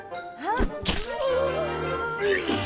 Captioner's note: june grunts; flesh squishing; zombie miss gudi groaning; bucky retching; vomit splashing